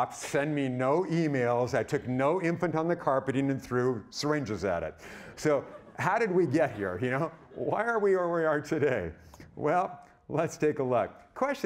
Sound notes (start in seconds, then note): 5.3 audience laughing